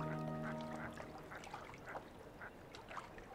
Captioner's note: ducks quacking